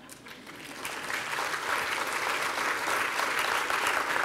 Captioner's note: applause